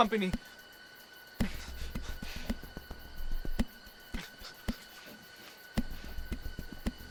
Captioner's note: crickets chirping; suspenseful music continues